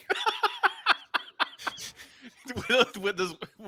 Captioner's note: laughs